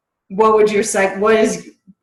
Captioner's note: murmurs